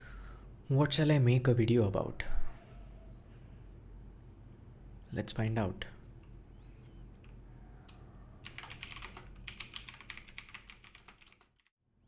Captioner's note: typing on keyboard